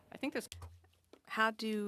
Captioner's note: speaking French